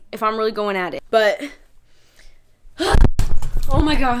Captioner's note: gasps; camera falls